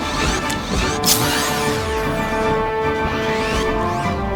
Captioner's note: raptor screeches and drinks; robot whirs; blade scraps; robot whirring